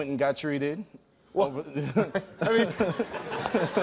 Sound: laughter

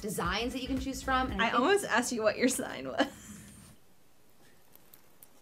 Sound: laughs

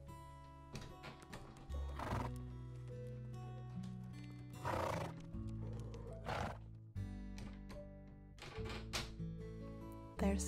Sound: stable door opens, horse snorts

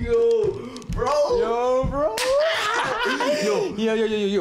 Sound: laughs

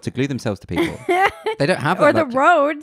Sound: laughs loudly

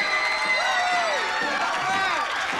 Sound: audience cheering

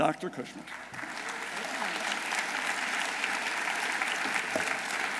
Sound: audience applauding

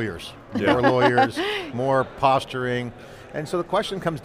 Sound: chuckles

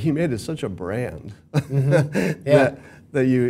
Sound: laugh

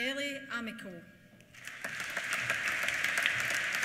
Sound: applause

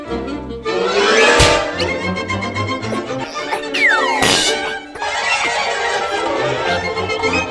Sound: hit

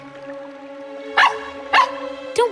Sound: barking

